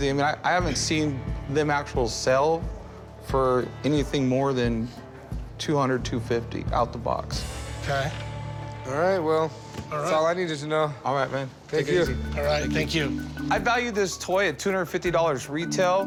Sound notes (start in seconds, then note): none